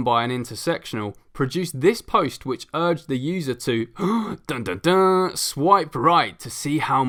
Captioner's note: gasp